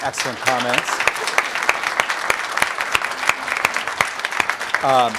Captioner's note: applause